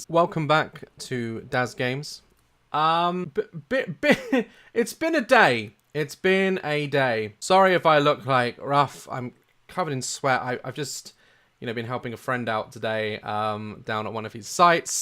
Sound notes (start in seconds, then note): 4.0 laughter